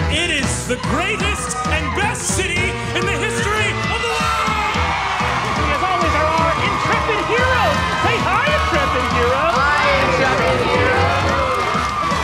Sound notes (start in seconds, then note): 4.8 crowd cheering